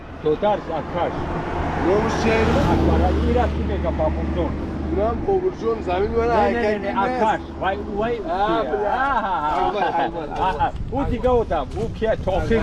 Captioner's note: speaking Tajik